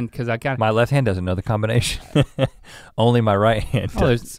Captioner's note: chuckles